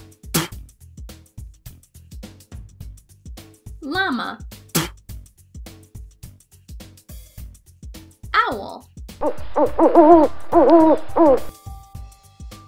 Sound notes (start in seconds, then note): 0.3 llama spits; 4.7 llama spits; 9.2 owl hooting